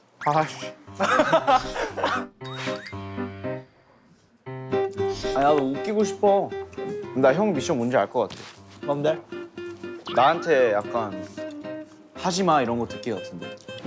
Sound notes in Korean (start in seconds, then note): 0.9 입 막고 웃는다